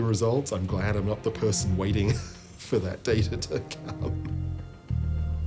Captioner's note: laughing